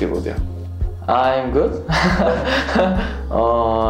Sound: laughs

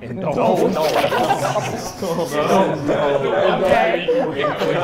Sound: everyone laughs

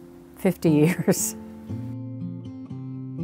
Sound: chuckles

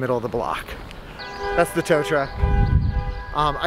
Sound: loud honking

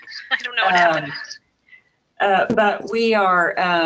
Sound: chuckles

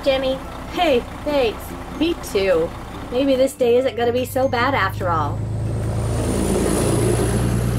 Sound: bus leaving

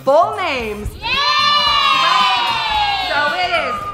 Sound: cheering

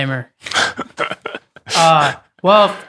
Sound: laughs

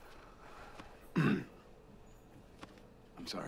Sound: clears his throat

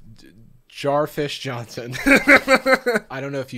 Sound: laughs

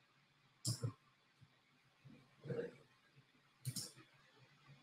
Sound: mouse clicking

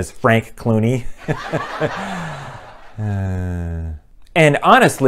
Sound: laughter; sigh

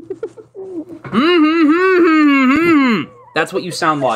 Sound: mockingly humming

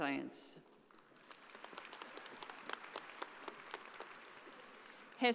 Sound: audience applauding

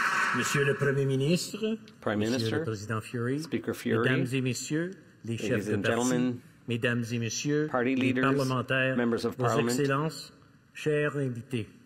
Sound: speaking French

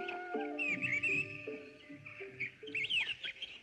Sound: birds Chirping

